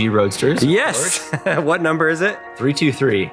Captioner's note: laughing